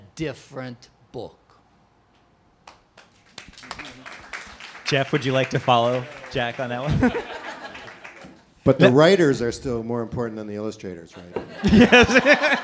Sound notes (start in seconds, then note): 2.9 applause; 5.8 laughing; 11.3 laughing